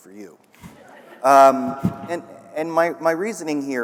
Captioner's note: audience laughing